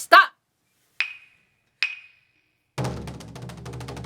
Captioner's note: wooden clappers Chon chon